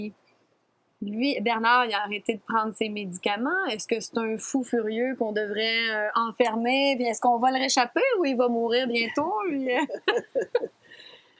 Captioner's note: laughs